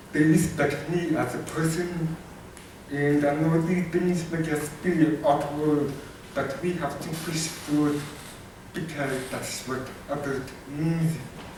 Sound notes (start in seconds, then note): none